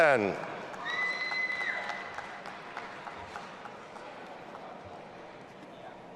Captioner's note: audience applauding and cheering